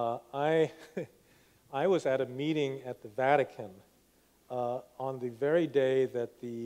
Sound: laughs

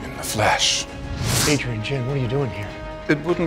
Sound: air whooshing

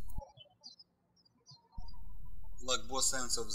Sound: birds chirping

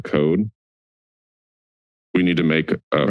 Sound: silence

